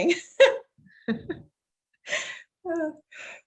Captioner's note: chuckling; laughing